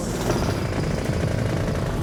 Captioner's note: whirring